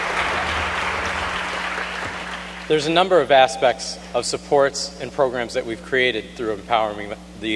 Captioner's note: applause